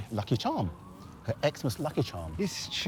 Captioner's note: sirens blaring